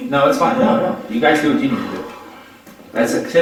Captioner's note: woman sighing